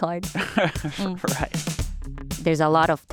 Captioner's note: laughs